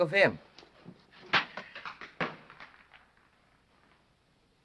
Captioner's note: rock clanking